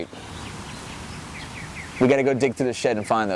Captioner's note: birds tweeting